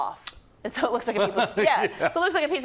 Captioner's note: laugh